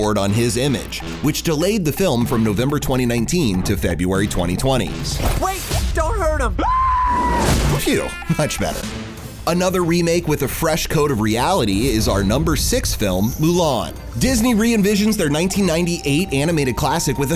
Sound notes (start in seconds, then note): 6.5 screams